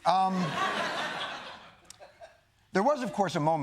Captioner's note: laughter